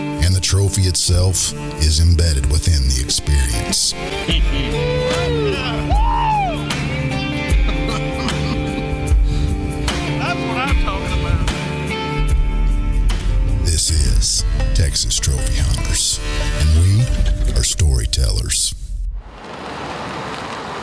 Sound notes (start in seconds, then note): 5.0 intense music; 7.3 hunters cheering